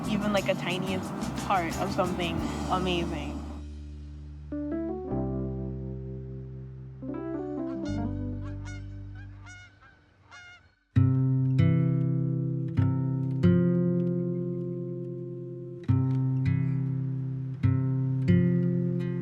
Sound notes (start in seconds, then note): 8.3 geese honking; 15.6 acoustic guitar music